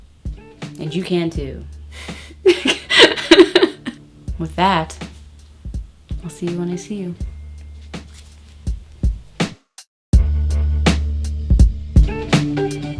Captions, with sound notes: and you can too. (laughing) With that, I'll see you when I see you. (smooth hip hop music)